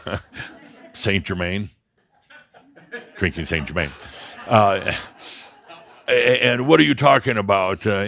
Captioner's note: some chuckles